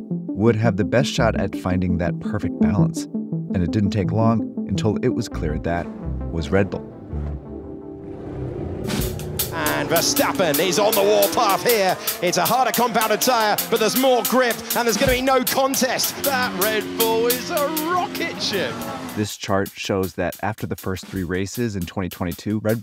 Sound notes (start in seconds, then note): 8.2 cars engines roaring; 8.2 upbeat music